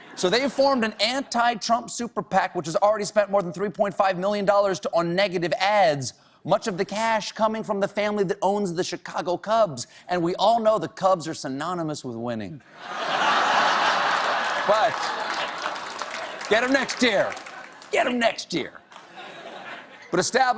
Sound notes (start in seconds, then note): 11.0 applause; 11.0 laughter